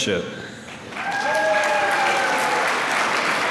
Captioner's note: applause